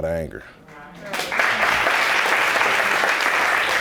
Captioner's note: audience applauds